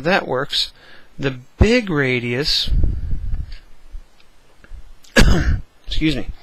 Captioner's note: cough